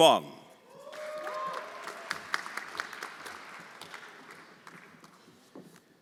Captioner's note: everyone applauding